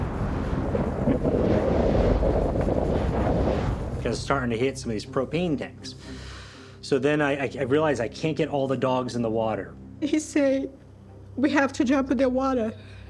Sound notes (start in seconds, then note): 1.6 explosions rumbling; 2.1 wind howling